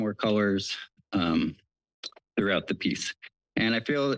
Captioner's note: smacks lips